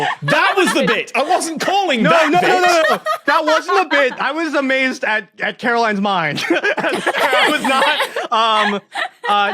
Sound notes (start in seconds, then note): 0.0 laugh; 6.3 group laughing